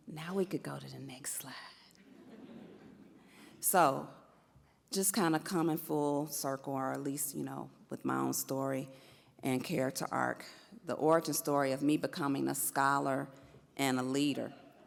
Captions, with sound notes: Now we could go to the next slide. (audience laughs) So just kind of coming full circle or at least you know with my own story and character arc. The origin story of me becoming a scholar and a leader.